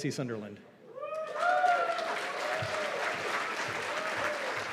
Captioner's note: cheers and applause